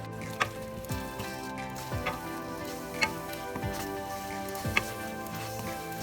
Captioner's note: wooden spoon clanks side of pan